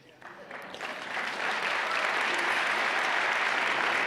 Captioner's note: clapping